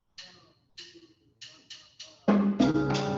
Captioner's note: sticks tapping; Latin jazz music